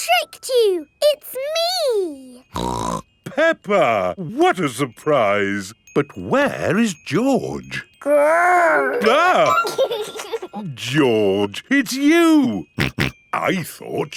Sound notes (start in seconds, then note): 2.5 snorts; 8.6 giggles; 9.7 exclaims; 12.8 snorting